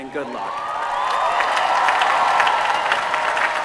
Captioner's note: cheering